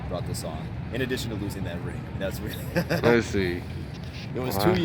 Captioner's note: laughs